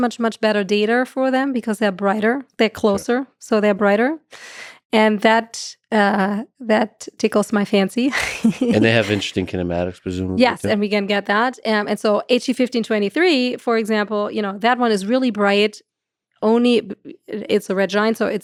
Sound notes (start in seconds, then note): 8.1 chuckles